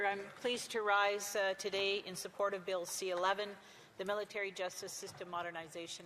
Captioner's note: speaking French